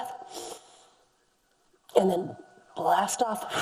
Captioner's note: inhales deeply